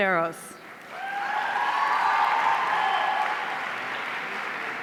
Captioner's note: audience cheering